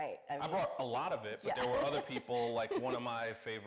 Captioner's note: laughs